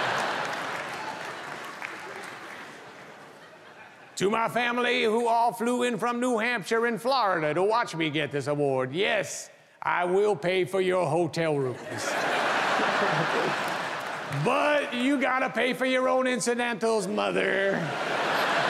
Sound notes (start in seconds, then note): 11.6 audience laughing